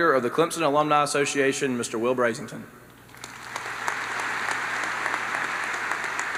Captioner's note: applause